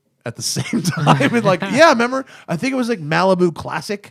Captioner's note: laughter